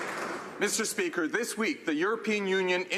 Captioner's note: some Applause